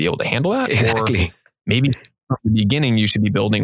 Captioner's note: mumbling